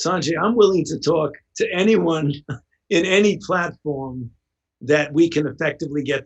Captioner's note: chuckles